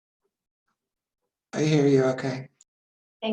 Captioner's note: murmuring